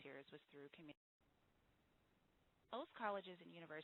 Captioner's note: audio break